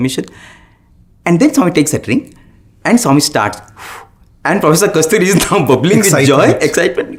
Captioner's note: blows